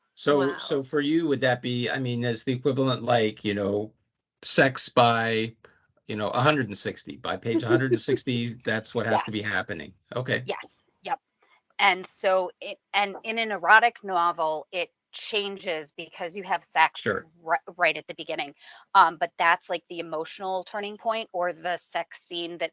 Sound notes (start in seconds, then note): 7.4 laughing